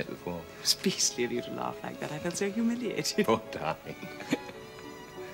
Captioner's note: they laugh